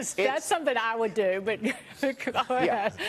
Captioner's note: laughter